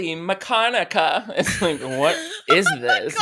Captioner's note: laughs